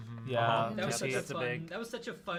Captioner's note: group chatter